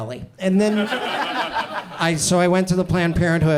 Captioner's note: audience chuckles